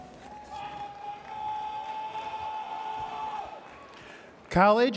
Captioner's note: spectator shouting